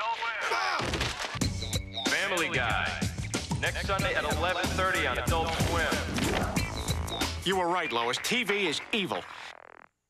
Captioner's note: Brian hollers